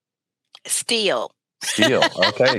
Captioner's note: laughs